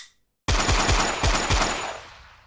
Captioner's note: more gunshots